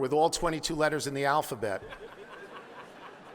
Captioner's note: laughing